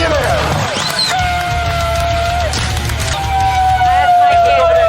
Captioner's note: cheering